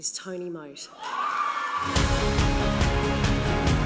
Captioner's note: cheering